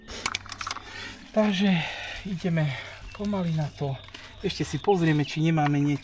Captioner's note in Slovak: vzdychanie